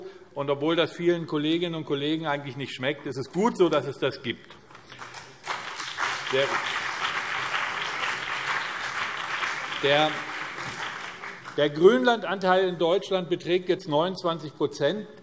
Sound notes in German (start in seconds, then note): 4.7 Beifall BÜNDNIS 90/DIE GRÜNEN und CDU